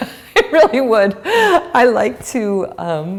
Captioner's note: laughter